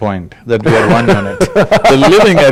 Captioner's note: laughter